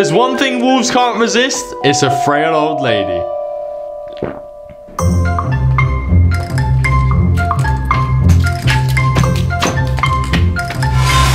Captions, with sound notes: If there's one thing wolves can't resist, it's a frail, old lady. (Shaggy gulps) (jaunty orchestral music)